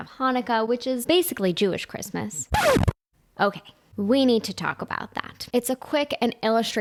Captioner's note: record screech